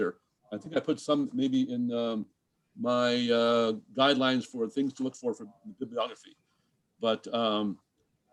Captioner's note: distorted mic